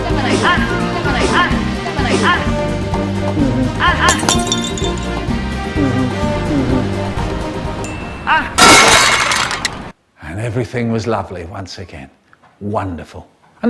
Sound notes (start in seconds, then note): 4.1 crash; 7.8 ding; 8.5 crash